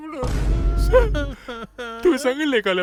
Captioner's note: crying